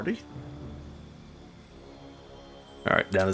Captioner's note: silence